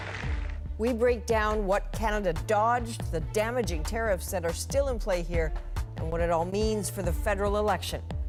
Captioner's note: applause